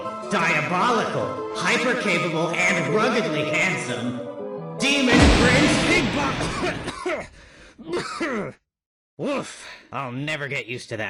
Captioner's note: cough